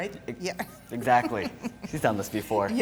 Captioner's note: chuckles